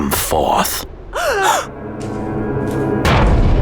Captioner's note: Mary and Martha gasping; scary music